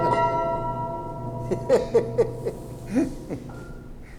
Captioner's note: piano tuner laughs